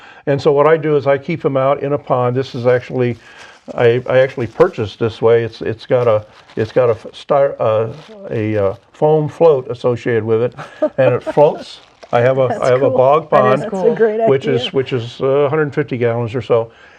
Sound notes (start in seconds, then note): 10.0 laughs